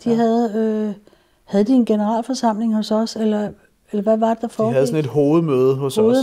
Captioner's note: none